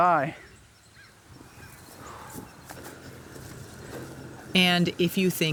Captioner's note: breathes out deeply